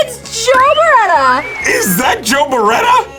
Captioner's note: audience whistles